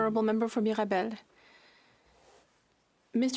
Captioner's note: speaking French